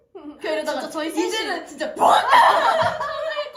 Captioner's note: burst out laughing